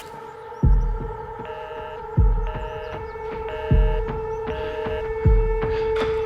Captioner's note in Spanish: Tono en la línea